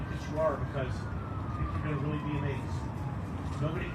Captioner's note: emergency siren in distance